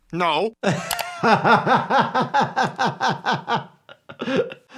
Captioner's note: laughing